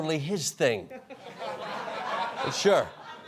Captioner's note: laughter